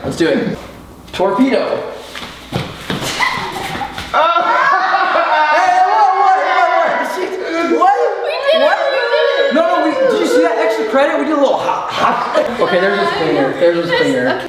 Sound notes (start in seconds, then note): 6.6 screams